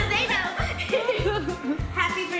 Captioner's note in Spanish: risa